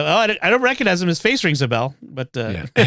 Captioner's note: laughter